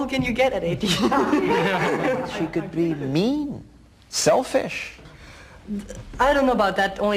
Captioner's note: laugh